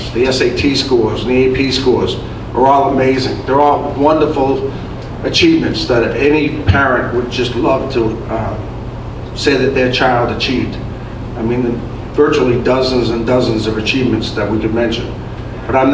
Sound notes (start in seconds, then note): none